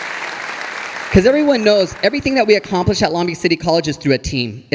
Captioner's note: audience applauding